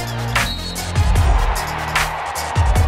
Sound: hip hop music; crowd cheering; hip hop music; whistle blowing

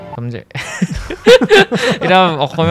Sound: laughs

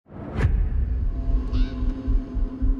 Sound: bird caws

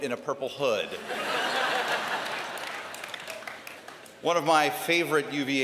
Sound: laughter

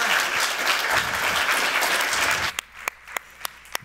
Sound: applause

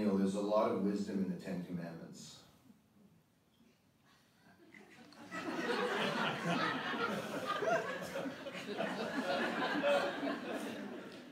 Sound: pause, audience laughter

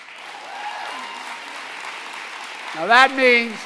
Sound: applause

